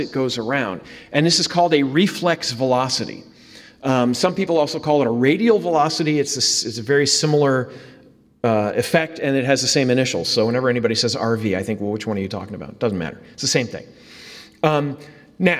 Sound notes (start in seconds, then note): none